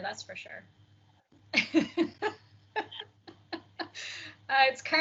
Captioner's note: all laughing